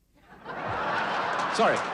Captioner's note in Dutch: publiek lacht